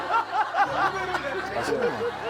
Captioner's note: everyone is dying of laughter